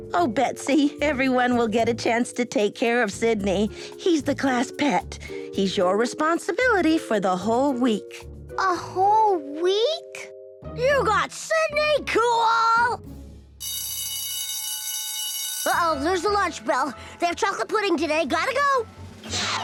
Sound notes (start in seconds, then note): 15.2 ringing